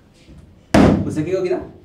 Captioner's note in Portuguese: thud